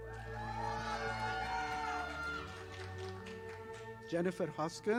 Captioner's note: audience applauding